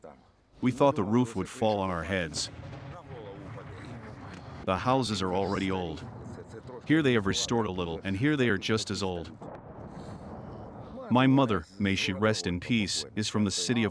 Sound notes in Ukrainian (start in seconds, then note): 1.9 гучний вибух неподалік